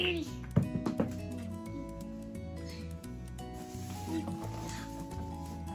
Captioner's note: block clanks on floor